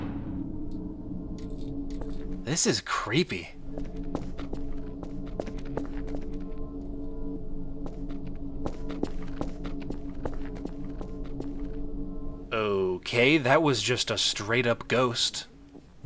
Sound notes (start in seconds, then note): 0.0 low droning ambience; 3.4 droning ambience continues